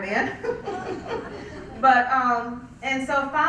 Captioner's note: laugh